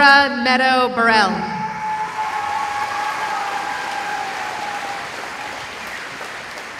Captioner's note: cheering